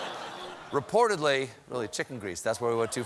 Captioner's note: laughter